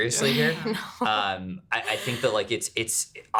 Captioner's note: laughing